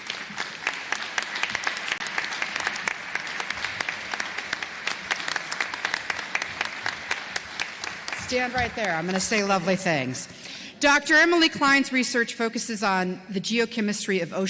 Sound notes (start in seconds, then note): 2.4 applause